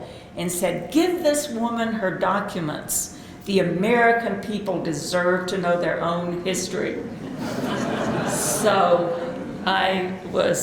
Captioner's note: audience laughter